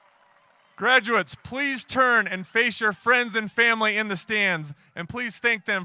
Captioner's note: applause